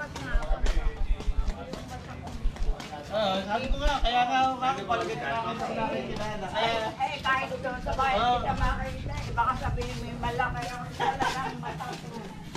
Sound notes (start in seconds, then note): 0.0 chatting